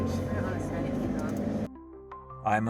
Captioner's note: narrator over music